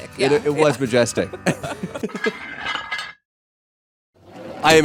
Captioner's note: laughter